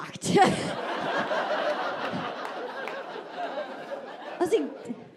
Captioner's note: audience laughing